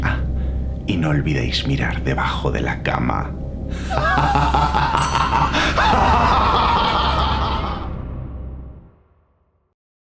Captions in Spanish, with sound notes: ah, y no olvideis mirar debajo de la cama *Risa malvada*